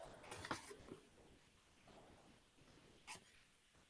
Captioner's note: pages rustling